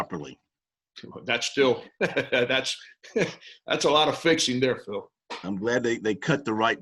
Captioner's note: laughs